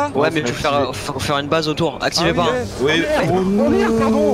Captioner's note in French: rire